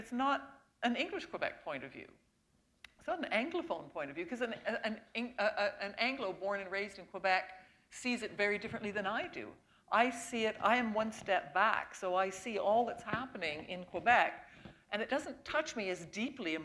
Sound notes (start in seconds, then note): none